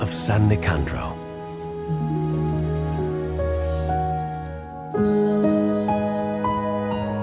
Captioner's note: birds chirping; gentle music continues